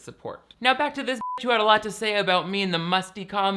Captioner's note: beeps